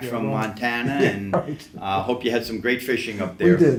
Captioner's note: laughs